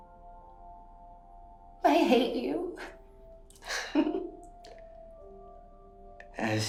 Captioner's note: chuckles